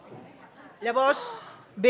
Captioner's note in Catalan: sospirs de sorpresa